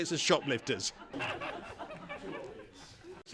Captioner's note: laugher